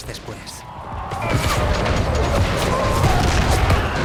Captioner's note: soldiers bellowing; guns firing